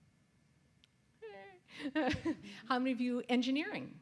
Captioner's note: laughs